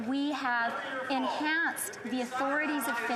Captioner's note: yelling